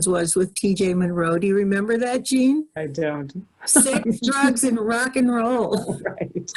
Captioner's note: lots of chatter and laughter; more chatter and laughter